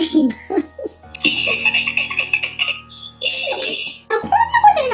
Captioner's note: laughs